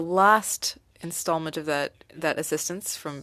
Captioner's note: speaking French